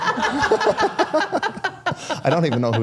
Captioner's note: participants laugh